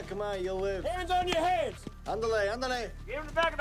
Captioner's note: Henderson speaks Spanish